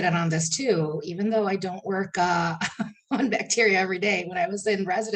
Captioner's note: chuckling